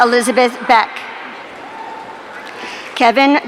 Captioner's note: audience cheering